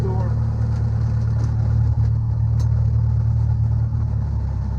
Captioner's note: engine humming